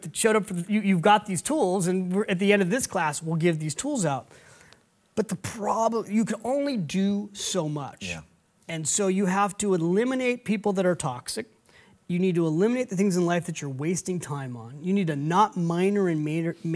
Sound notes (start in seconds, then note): none